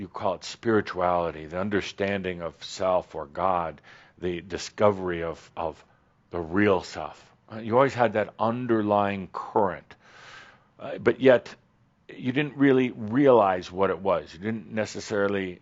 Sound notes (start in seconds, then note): none